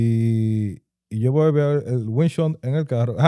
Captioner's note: speaking Foreign Language